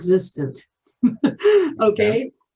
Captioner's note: chuckles